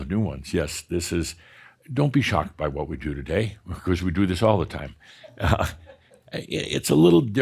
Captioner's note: chuckles